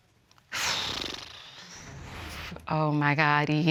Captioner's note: flaps lips